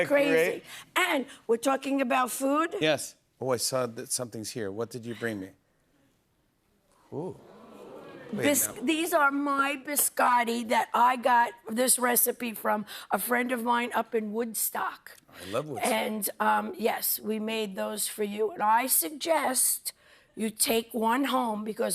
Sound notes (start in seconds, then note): 7.3 audience oohs